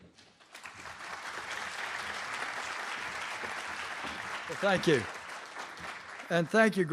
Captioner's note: applause